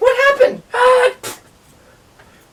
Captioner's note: splat